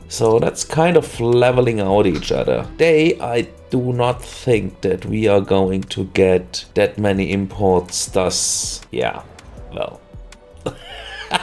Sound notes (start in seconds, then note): 10.6 laughter